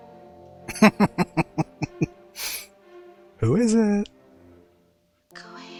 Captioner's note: laughing